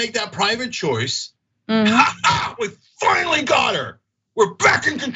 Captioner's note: laugh